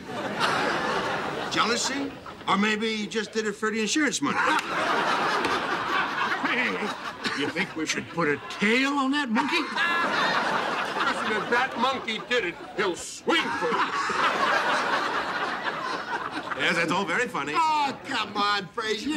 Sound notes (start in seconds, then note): 4.2 laughter; 9.3 laughing hysterically